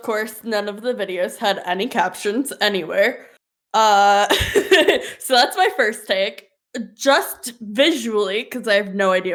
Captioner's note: laughs